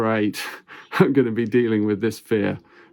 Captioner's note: chuckles